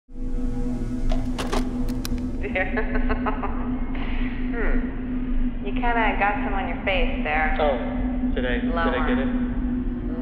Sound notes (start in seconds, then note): 2.5 woman laughing